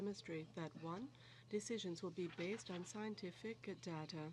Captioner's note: speaking french